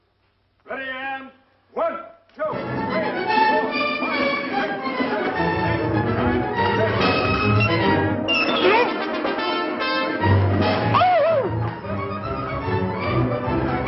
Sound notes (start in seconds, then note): 2.5 exciting orchestral music; 8.7 yelping